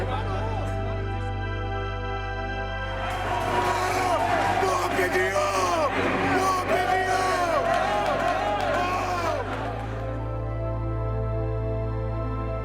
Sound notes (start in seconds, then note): 5.8 fans yelling